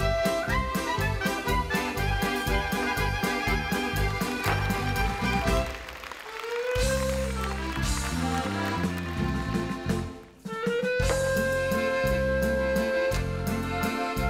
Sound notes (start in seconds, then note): 5.3 audience clapping; 9.1 gentle music